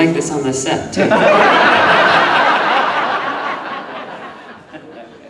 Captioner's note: audience laughs